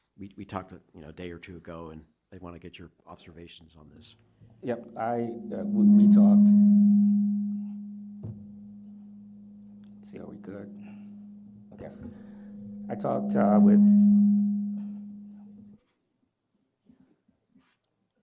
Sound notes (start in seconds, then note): 6.6 mic feedback; 14.0 mic feedback